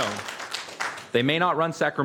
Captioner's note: applause